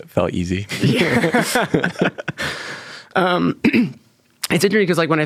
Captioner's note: participants laughing